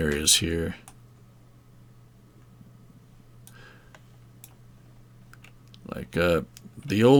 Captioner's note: mouse clicking